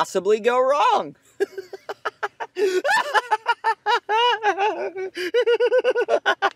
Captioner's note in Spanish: Risas escalofriantes